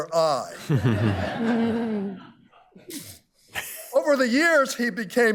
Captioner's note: all laughing